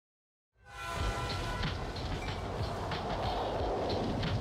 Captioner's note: train horn blaring